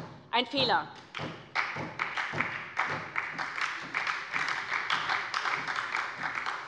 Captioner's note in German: Beifall bei der SPD